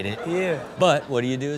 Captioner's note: crowd laughs